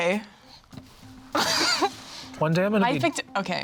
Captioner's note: laughs